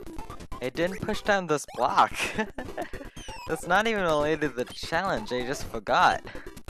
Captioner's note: laughs